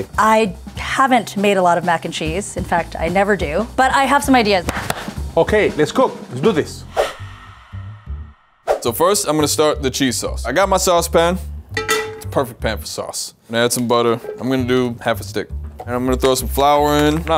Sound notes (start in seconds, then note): 4.6 claps; 11.8 pan clatters